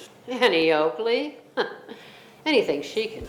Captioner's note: chuckles